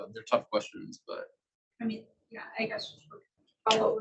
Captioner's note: male Voice